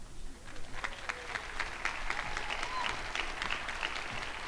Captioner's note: crowd applauding